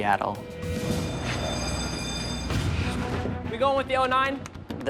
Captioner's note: alarm rings